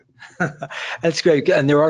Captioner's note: laughs